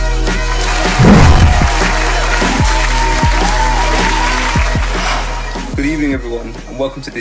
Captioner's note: applause